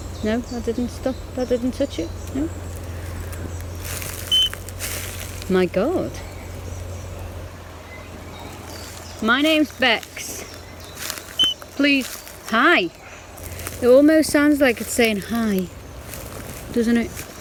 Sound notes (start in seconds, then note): 0.0 birds chirping; 4.3 beep; 6.7 birds chirping; 11.4 beep